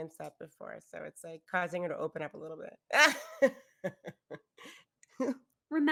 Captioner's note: laughs